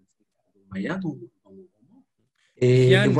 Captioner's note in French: coupure audio